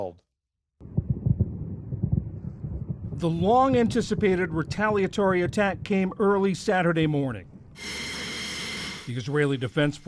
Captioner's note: voice-over